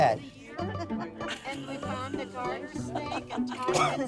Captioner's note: laughter